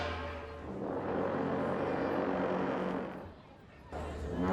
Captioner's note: horns blowing